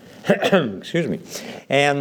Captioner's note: coughs